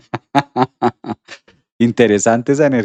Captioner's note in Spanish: risas